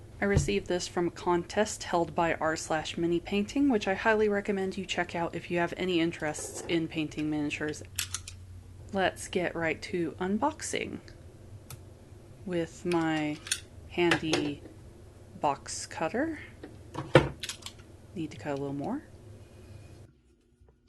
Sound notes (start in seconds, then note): 13.1 ker-Klick; 14.3 thump Tunk